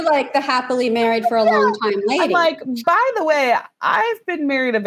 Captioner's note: laughs